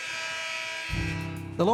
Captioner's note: scoreboard buzzes